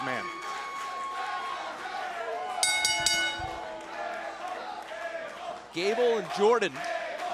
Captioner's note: bell ringing